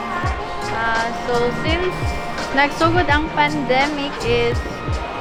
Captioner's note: speaks foreign language